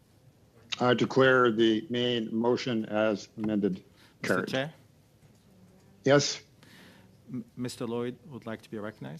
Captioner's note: speaking French